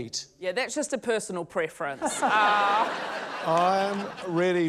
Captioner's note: laughter